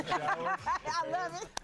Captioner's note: laughing